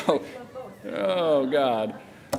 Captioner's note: laughter